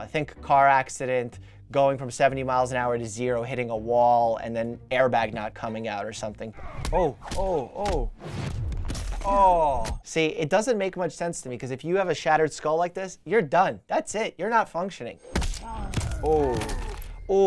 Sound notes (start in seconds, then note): 6.6 grunting, smacking; 15.3 cracking bones, grunting